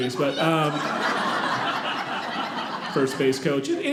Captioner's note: audience laughing